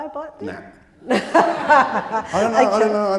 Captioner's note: audience laughing